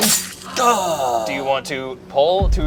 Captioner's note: exhales